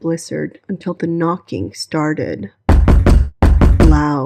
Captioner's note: knocking loudly